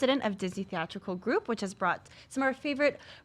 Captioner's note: none